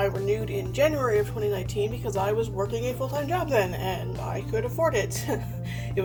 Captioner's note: laughs